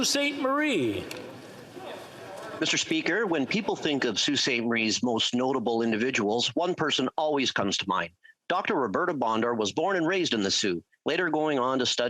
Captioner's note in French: voix de l'interprète